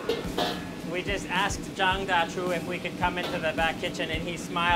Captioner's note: speaking Mandarin